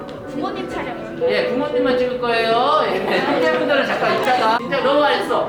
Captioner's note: laughing